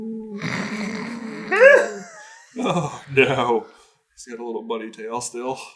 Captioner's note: snorting and giggling